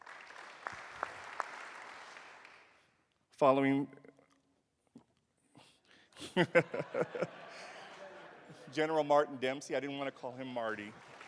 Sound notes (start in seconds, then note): 0.0 applause; 6.1 laughs; 10.5 applause